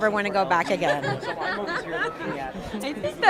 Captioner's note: laughing